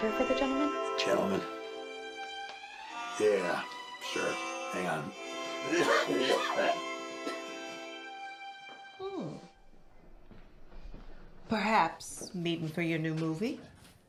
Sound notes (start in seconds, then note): 5.6 coughing